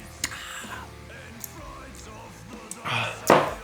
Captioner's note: relieving sighs